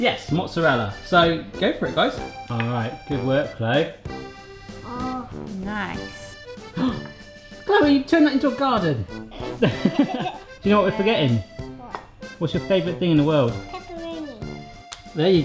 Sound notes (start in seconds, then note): 6.7 gasp; 9.2 laughing